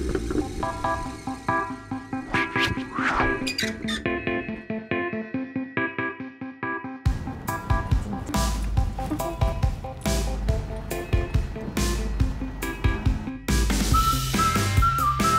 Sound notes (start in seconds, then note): 2.2 whoosh; 2.4 squeaking hinge; 7.1 humming